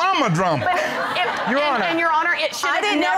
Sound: laughter

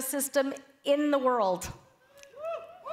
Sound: cheering

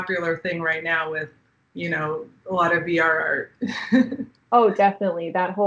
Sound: chuckling

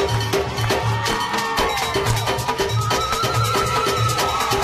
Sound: audience cheering

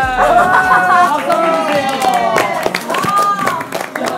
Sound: applause

